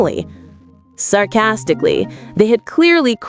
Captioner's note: sarcastically